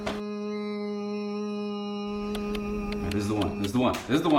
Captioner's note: Adam hums